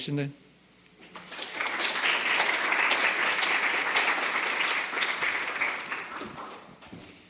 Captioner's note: applause